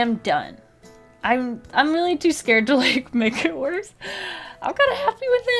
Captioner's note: laughs